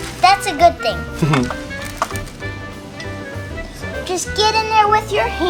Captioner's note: chuckles